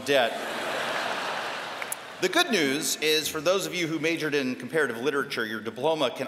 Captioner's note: laughter